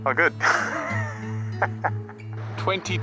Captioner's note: laughing